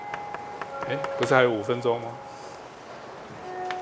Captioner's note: bell chimes